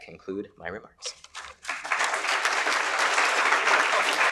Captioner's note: applause